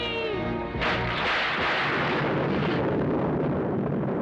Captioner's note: thunder crashes